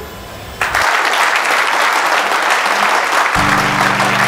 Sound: all clapping

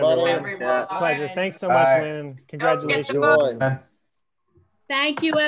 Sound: group chattering

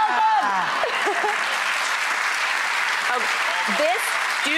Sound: applause

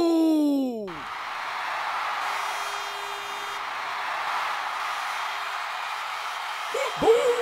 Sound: crowd cheering

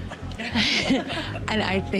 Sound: all chuckle

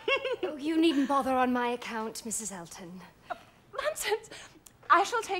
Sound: laughs

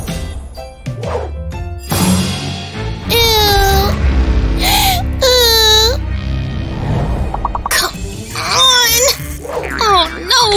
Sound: deep sigh; grunting

